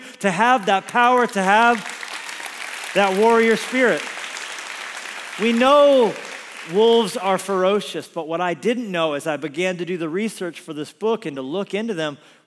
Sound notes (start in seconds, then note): 4.2 congregation applauds